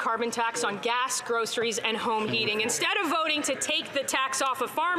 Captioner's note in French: voix de l'interprète